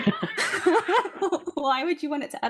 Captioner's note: laughing